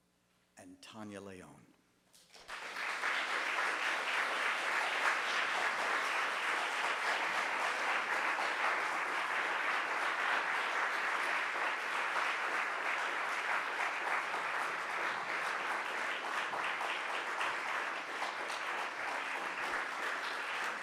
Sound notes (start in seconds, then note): 3.4 audience applauding